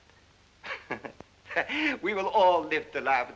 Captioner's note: chuckles